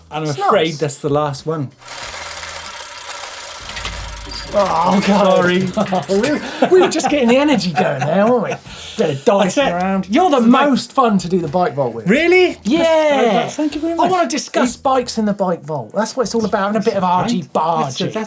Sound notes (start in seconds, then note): 1.8 gears grinding